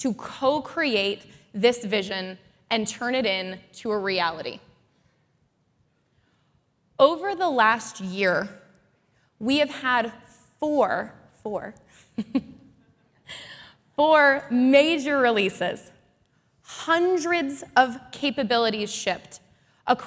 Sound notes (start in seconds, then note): 12.0 chuckles